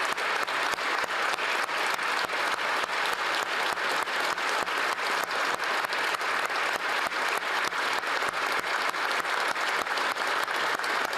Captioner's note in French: applaudissements